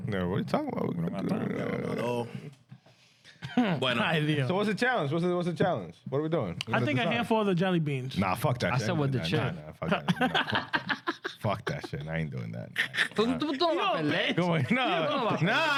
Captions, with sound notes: No, what are you talking about? (Speaking In Foreign Language) So what's the challenge? What's the challenge? I think I have four other jolly beans. Nah, fuck that shit. I said what the shit. (Laughing) Fuck that shit, I ain't doing that. (Speaking In Foreign Language)